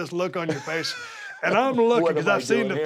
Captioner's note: laugh